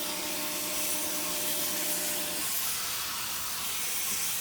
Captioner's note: steamer hissing